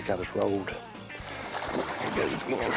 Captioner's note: water splashing